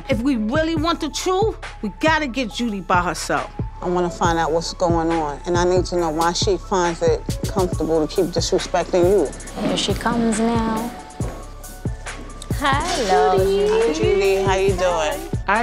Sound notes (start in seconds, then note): 9.8 footsteps tapping